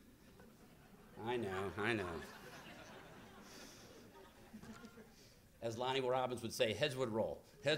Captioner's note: laughter